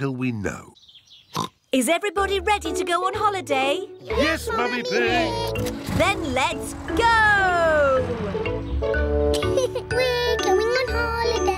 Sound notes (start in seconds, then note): 1.3 oinks; 9.3 laughs